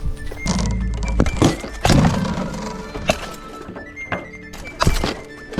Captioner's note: weapons whooshing and thwacking